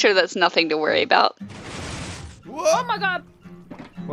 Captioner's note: pistons fire